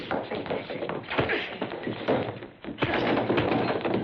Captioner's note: punching; scuffling